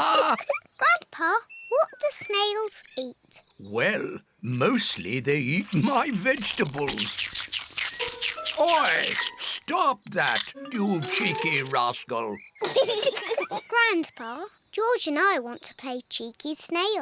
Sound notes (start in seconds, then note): 0.0 both laugh; 0.0 laughs; 12.6 both laugh